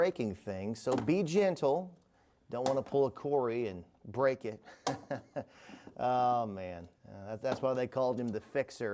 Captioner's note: chuckles